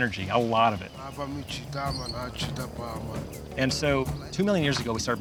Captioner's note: speaking local language